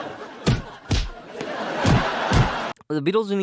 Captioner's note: laugh track; as Blingus stomps, laughs amplify